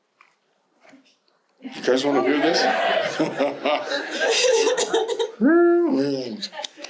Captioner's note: audience agreeing loudly